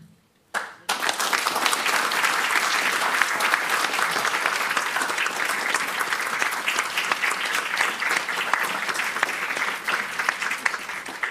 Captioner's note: audience clapping